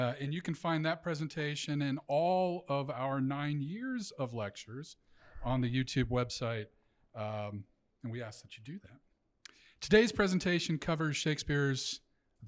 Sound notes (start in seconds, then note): none